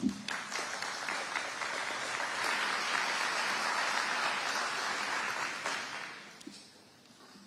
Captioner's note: audience applauding